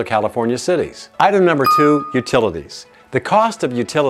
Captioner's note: bell dings